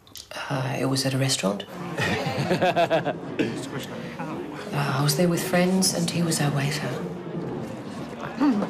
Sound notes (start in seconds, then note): 1.9 laughing